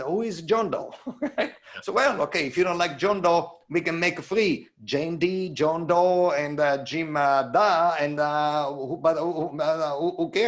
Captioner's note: chuckles